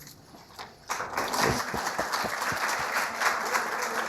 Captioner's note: audience applause